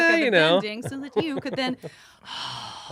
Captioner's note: sighs